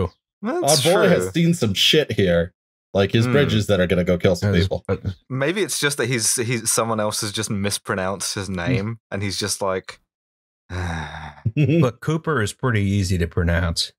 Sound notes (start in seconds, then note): 10.7 deep sigh; 11.5 laughter